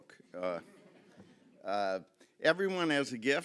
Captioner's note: audience chuckling